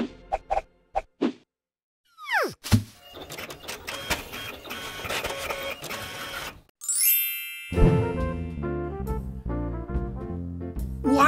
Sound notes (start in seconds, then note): 3.0 printing sound; 6.8 chimes